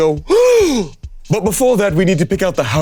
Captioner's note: Damien gasping